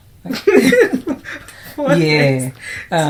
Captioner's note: laughter